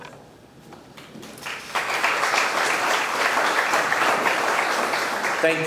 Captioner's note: audience clapping